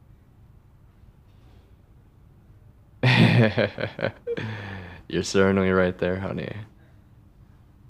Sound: laugh

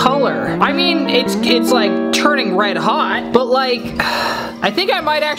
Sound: exhales

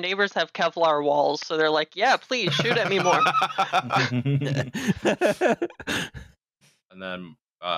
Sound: laughter

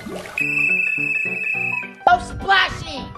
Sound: water splashes; whistle blows

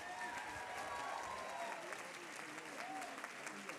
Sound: applause

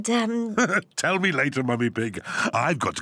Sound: laughs

